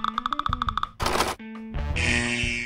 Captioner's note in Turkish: Korkmuş jüri puan verme sesi